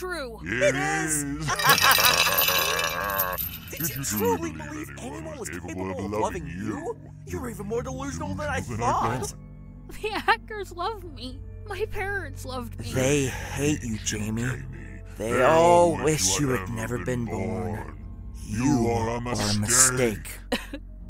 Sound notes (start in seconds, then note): 0.5 laughs; 8.6 sobs